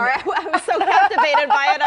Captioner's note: laughter